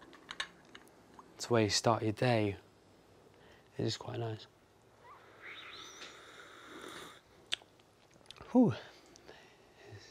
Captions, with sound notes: It's a way to start your day. It is quite nice. (slurping and lips smacking) Ooh.